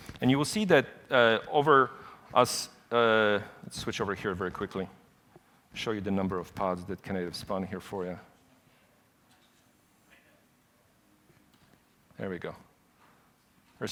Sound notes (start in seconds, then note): none